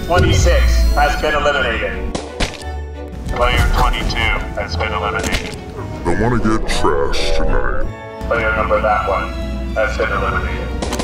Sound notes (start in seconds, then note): 2.2 paint splattering